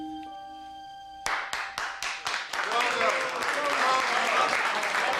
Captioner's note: applause